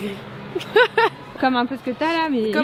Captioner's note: laugh